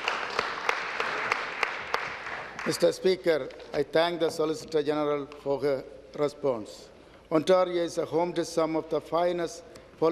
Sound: applause

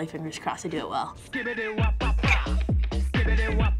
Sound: giggles

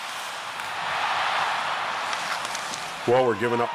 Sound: crowd cheering

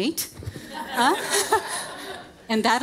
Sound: audience laughing

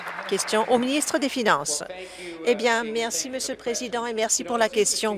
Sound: applause

